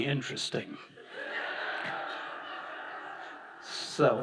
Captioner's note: audience laughing